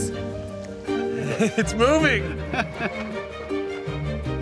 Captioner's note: laughs